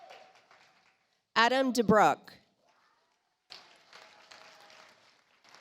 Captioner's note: audience applauds